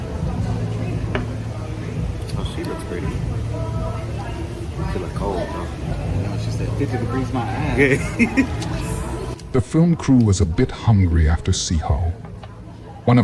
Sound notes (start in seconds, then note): 7.4 chuckling